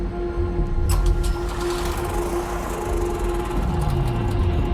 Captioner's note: generator rumbling; generator chocking